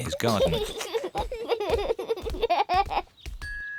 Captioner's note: both laugh